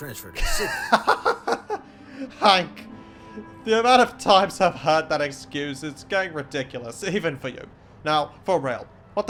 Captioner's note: laughs